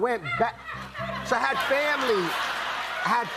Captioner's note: laughter